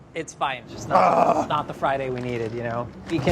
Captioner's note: groans